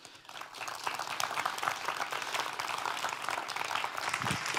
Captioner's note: audience applauds